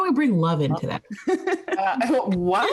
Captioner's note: laughing